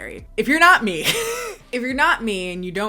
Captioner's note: laughs